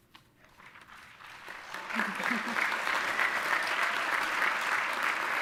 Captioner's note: audience applauding